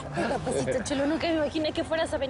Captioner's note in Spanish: Risas